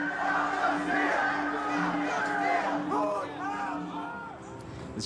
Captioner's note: crowd chatter